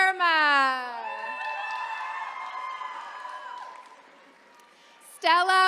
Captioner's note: attendees cheering